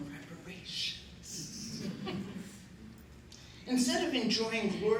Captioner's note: chuckles